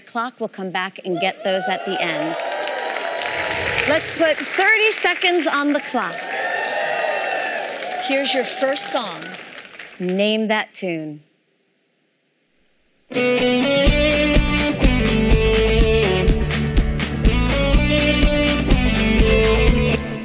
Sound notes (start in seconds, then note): 5.6 cheering